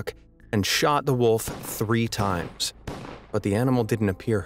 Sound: gun firing

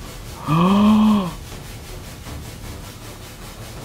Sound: gasps

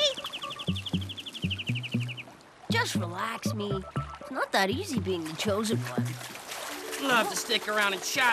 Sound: whistling

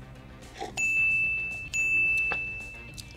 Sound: bell rings

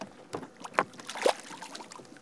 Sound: splash

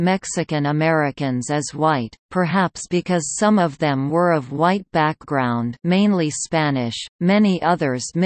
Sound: mainly Spanish

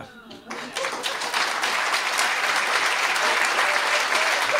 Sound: applause

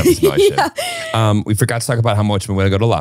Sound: laughing

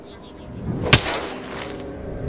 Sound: Minecraft hit sound

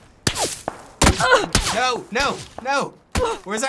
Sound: character grunts

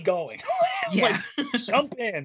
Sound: laughing

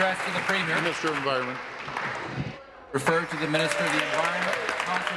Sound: applause

